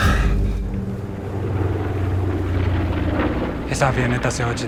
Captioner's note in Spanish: Ruido de la avioneta